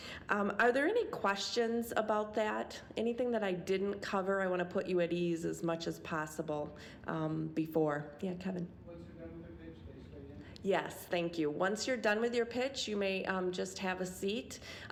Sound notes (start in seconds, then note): none